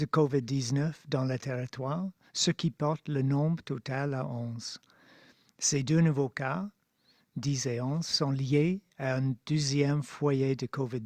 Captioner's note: speaking French